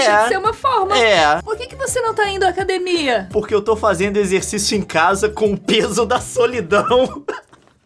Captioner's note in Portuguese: risada